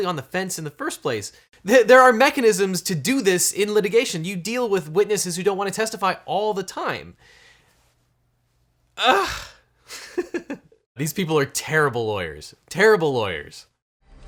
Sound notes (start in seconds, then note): 9.9 laughs